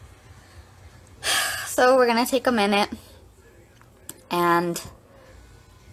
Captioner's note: sighs